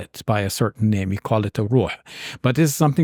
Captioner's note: speaks in Arabic